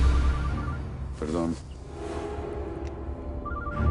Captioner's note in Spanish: Suena un celular